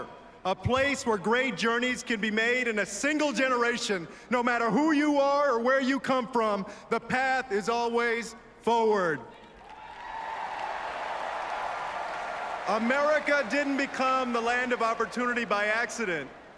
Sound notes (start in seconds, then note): 11.5 applause